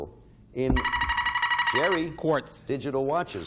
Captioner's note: buzzer beeping